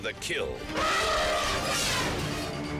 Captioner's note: elephant trumpets